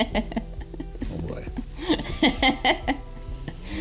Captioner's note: laughs